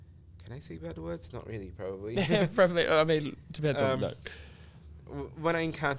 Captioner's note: laughs